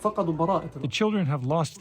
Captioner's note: through translator